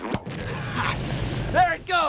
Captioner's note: pop